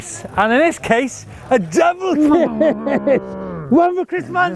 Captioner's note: laughs